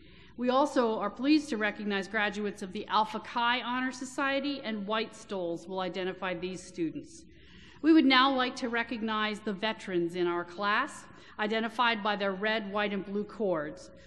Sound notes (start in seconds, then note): none